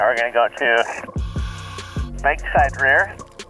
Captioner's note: apparatus inhales